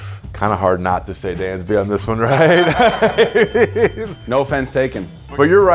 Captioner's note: laughs